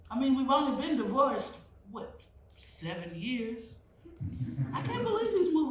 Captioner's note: laughter